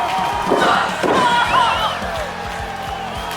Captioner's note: scream; crowd cheers with excitement